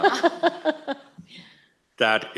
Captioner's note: laughs